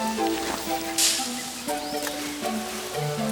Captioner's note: leaves rustle